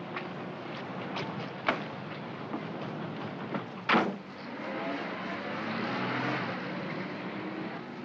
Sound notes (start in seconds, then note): 3.9 cab door closes; 4.4 cab accelerates away